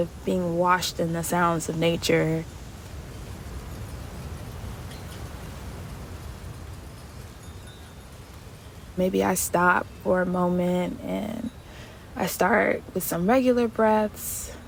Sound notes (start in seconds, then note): 2.5 A windchime quietly sways in the background